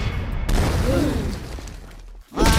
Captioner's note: crowd gasps